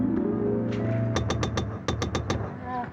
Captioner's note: knocking at door